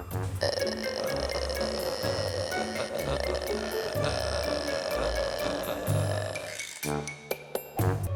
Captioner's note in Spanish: sonido gutural